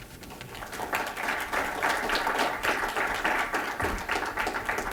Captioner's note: applause